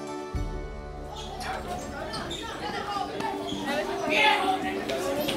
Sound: students chattering

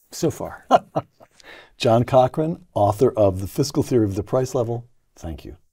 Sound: laugh

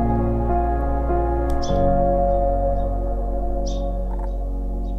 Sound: birds chirping

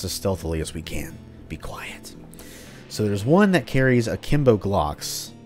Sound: whispers

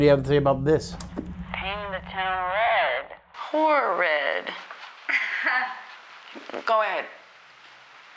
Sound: click

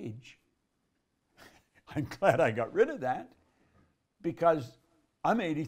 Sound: laughs

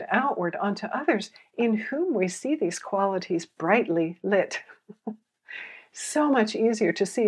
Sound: chuckles

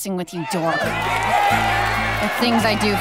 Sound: cheering

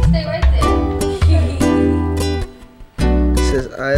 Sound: laughs

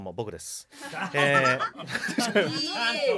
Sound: laughs

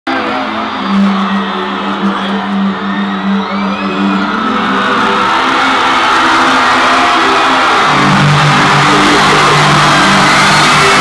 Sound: audience cheering

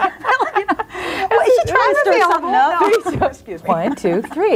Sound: laughs; overlapping chattering

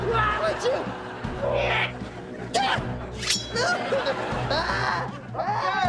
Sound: screaming

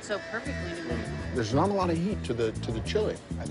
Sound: drill whirring

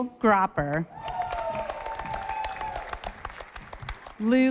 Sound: audience applauding

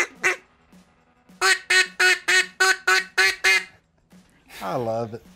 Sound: duck noise

